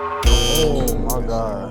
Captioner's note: buzzer